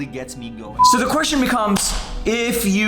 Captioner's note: beep